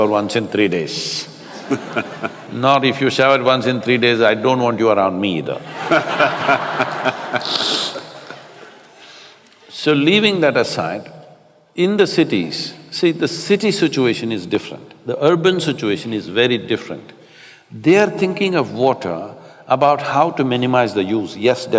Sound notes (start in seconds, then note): 0.0 Matthew laughs; 1.4 laughter; 8.8 laughter